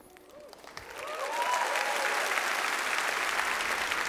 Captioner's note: applause